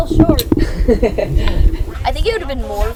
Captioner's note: laughs